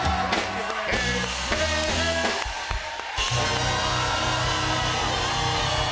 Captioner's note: cheers and applause